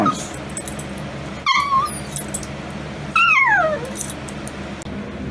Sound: Ella whimpers and whines

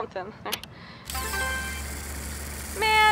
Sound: machine chimes

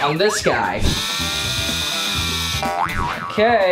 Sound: machine wheezing

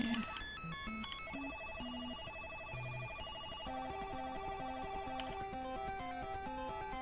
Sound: beeping

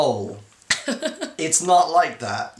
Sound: laughing

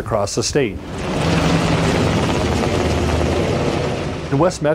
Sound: blades chopping

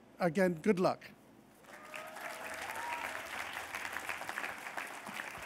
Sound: applause

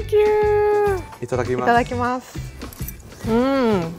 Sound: both speak in foreign language

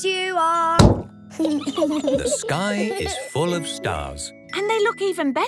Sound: giggling

